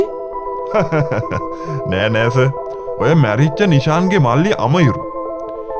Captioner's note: laughing